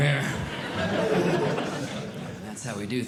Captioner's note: audience Laughing